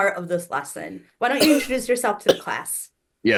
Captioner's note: Hana coughs